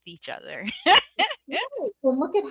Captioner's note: laughs